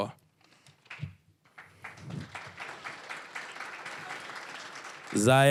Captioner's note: applause